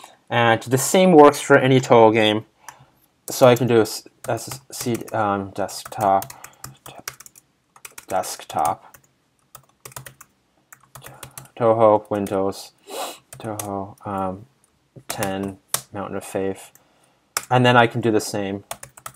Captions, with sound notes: And the same works for any Touhou game. *typing* And then I can do the same.